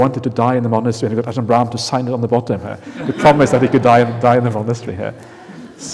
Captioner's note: laughter